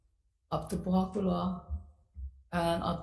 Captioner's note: speaks foreign language